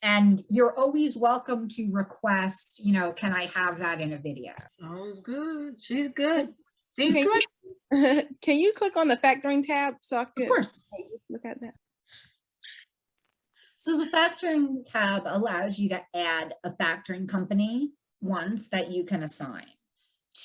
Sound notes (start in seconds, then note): 8.1 laughs